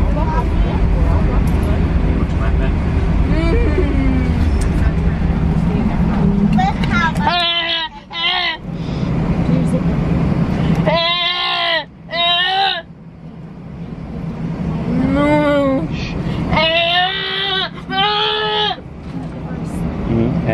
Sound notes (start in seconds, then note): 3.3 hums; 3.6 chattering softly; 6.8 yells; 11.1 yells; 14.9 moans; 16.6 yells